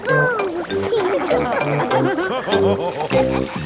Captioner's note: all laughing